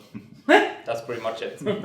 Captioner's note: laughs